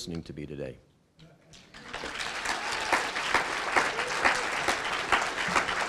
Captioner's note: applause